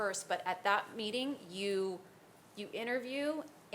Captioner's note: none